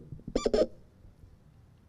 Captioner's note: microphone squeak